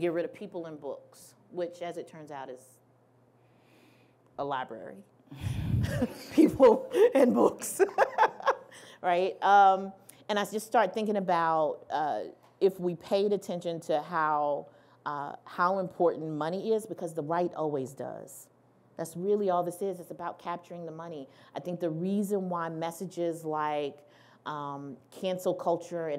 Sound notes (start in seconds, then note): 7.8 laughing